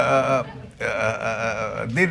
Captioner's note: laughter